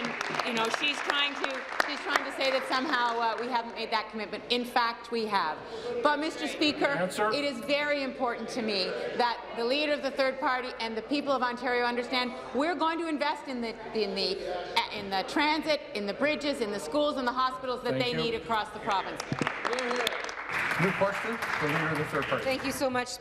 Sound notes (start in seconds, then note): 3.0 applause